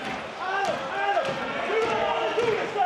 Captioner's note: audience cheering